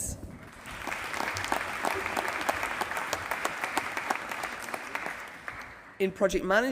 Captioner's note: applause